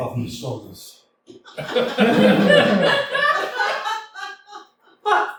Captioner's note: laughter